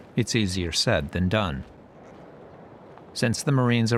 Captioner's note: none